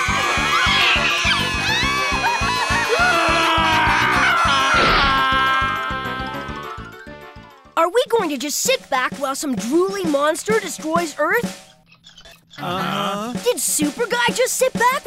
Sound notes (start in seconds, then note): 2.6 wailing